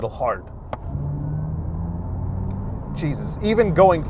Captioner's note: car whooshing